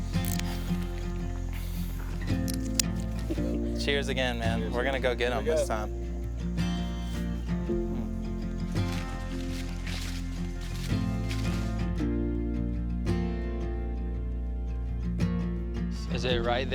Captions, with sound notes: [plastic clicking] [clips snapping] Cheers again, man, we're gonna go get 'em this time. - There you go. - Mmm. [gentle folk music]